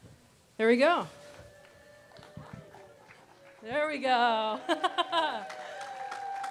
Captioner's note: applause